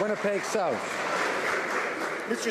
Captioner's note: some Applause